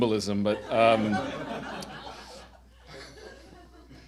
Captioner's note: audience laughing